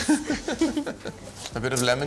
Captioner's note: presenters chuckle